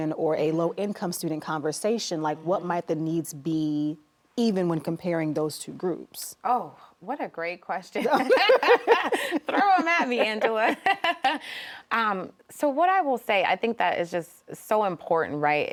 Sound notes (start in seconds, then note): 8.0 both laughing